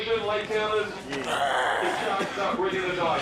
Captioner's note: growls